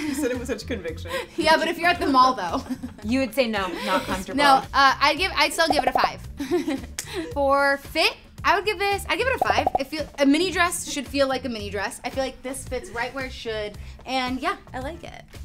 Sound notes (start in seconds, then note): 2.7 laughs; 6.4 chuckles